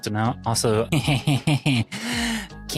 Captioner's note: laughter